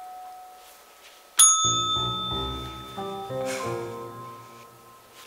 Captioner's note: bell dings